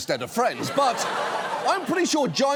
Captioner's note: audience laughs